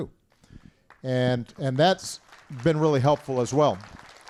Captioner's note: applause